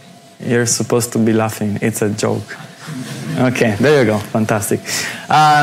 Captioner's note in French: rires